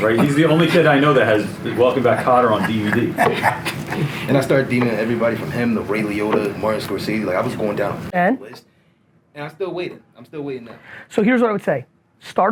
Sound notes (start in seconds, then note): 3.4 laughs